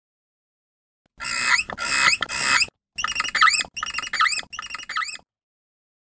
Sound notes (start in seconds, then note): 0.0 sound of mystic bird